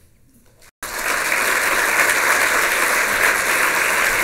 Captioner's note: applause